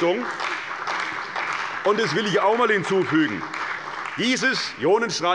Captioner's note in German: Beifall bei der CDU und dem BÜNDNIS 90/DIE GRÜNEN